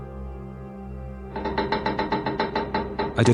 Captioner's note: hull stress sounds